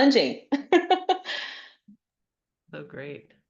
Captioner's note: laughs